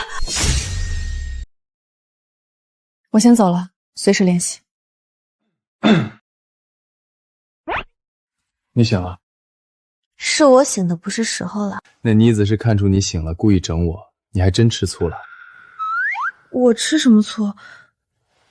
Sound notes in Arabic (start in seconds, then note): 5.8 سعال